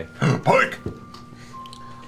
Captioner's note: gasp